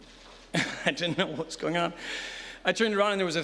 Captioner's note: laughs